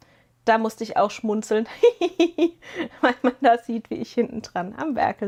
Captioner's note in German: gelächter